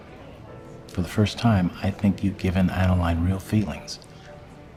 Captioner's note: none